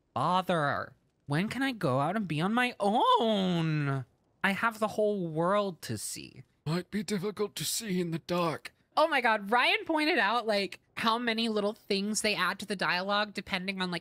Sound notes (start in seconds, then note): 0.1 Pauly Shore Pinnochio Voice